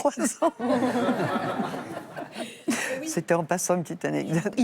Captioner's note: laughs